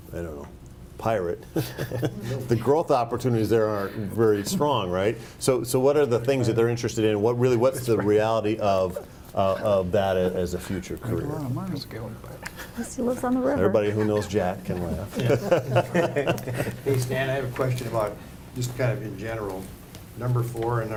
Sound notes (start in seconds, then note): 15.4 group laughing